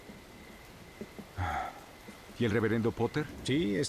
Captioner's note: sighs